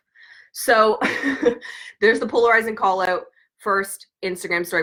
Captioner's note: laughs